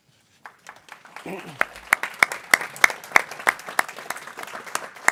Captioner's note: people clapping